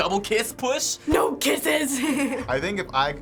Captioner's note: giggles